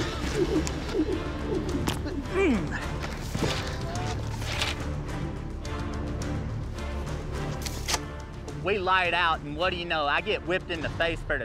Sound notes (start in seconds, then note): 0.5 ropes swirling through air; 2.0 grunts